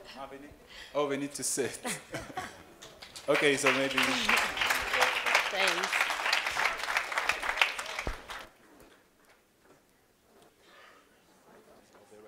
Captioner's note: applause